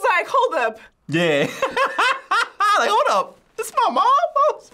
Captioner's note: laughs